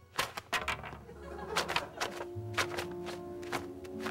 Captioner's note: crinkling paper